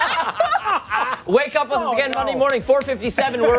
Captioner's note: laughter